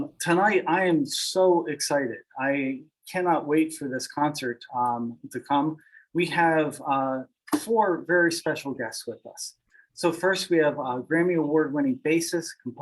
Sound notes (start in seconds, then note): none